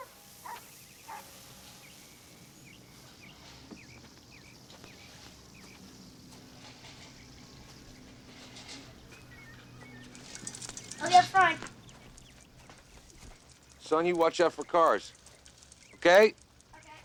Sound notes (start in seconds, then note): 0.4 dog barking; 0.7 birds chirping